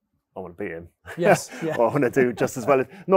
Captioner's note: laughs